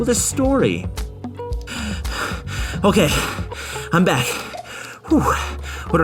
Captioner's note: panting